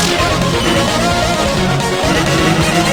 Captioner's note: sigh